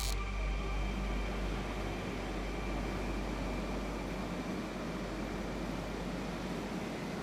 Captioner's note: gases humming in background